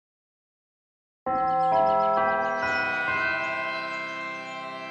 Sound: bells chime

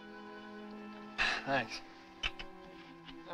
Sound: sighs

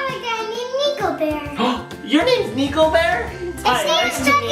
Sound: gasp

